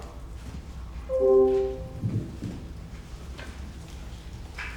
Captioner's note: light beeps